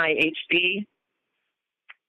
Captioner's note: silence